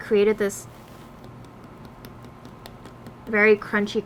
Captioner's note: tapping